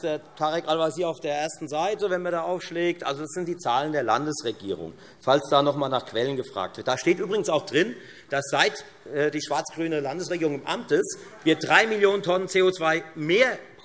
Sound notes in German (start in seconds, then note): none